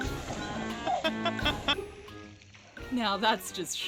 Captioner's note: laughs